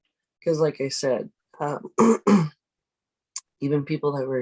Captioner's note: clears throat